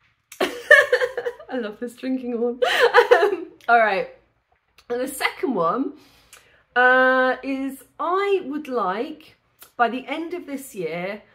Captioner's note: laughing